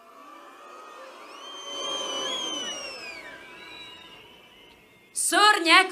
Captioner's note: whistling